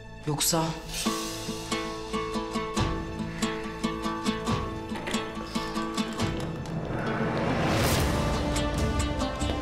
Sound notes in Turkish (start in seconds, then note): 4.9 Kapı gıcırdama sesi; 4.9 Kapı açılma sesi